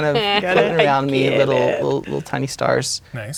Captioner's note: laughing